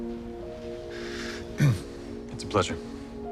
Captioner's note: clears throat